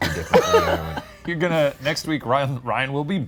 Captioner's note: laughing